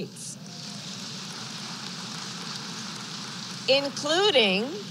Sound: applause

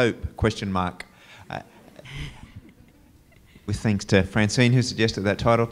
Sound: laugh

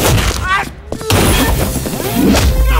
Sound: gunshot

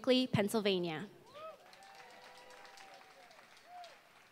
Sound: applause

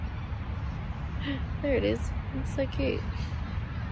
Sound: light laugh

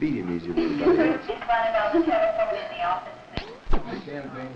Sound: hospital loudspeaker in background

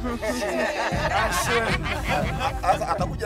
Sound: laughter

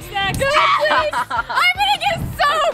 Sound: laughs

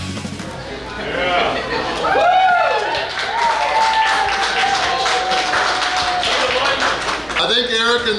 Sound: cheering & Clapping

